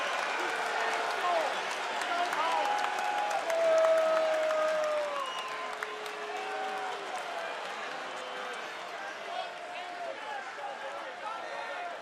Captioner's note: cheers and applause